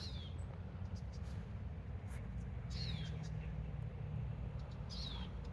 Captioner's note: birdsong